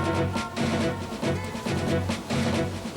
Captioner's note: music and horns honking